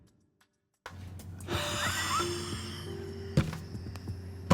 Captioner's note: chuckles